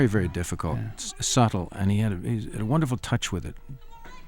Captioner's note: sobbing